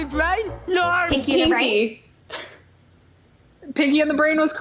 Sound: laughs

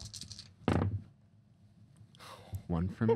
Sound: dice rattling; sighing

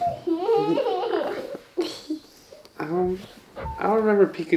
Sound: giggling

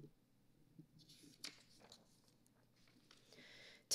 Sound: paper rustling

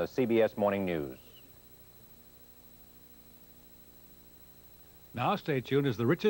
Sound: silence

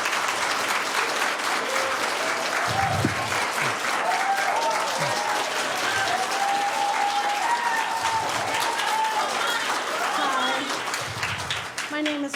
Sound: cheering and applause

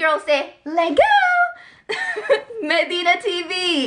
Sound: laughs

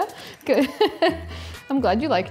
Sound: laughs

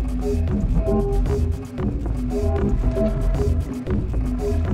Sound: footsteps plod

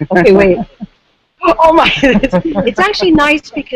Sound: gasps; laughs

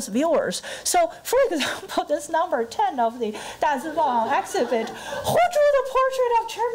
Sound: crowd laughter

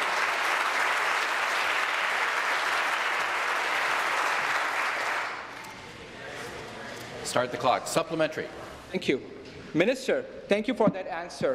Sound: applause

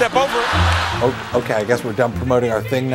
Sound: audience laughs

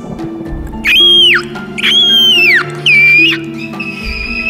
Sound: speaks eagle

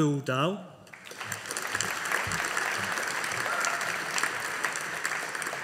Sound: audience applauding

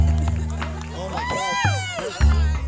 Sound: cheering

